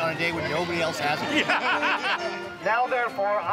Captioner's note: laughing